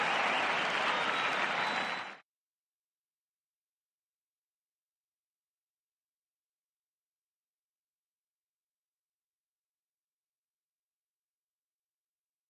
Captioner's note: cheers and applause